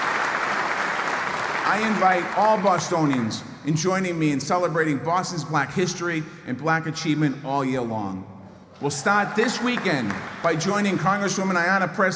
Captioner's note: applause